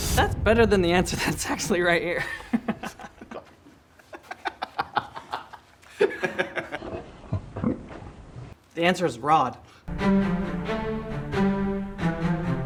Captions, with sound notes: - That's better than the answer that's actually right here. (both laughing) The answer is Rod. (upbeat music)